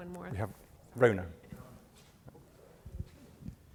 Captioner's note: voiceover